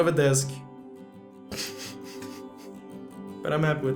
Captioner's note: laughs